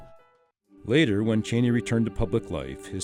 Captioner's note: voiceover